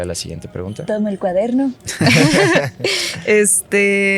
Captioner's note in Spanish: Se ríen